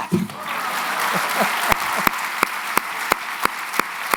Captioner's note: applause